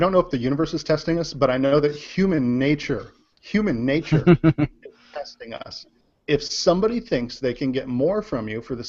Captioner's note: laughs